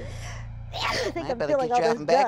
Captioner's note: Soledad sneezing